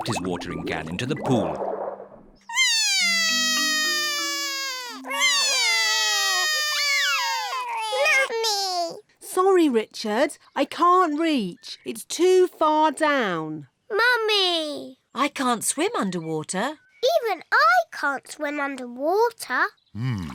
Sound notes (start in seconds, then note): 2.5 both crying